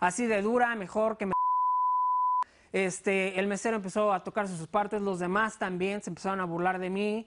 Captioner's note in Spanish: Bip